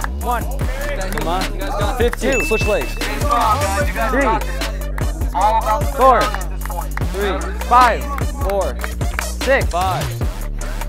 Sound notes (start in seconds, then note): 2.2 bell dings